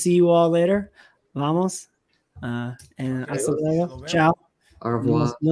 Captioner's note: speaking spanish